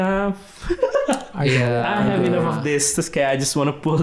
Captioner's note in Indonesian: tertawa